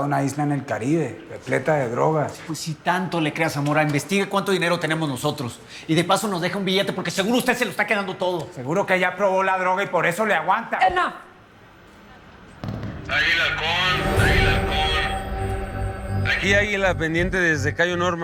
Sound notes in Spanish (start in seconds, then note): 13.0 Voz en la TV